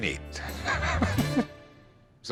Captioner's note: laughs